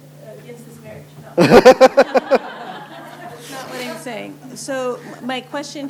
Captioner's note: laughter